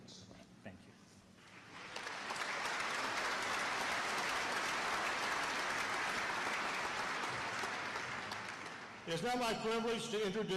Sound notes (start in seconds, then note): 1.4 applause